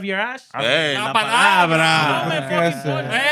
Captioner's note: non-english Speech